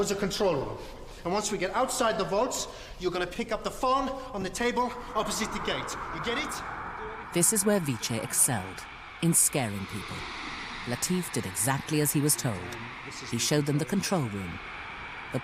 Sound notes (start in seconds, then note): 9.2 voiceover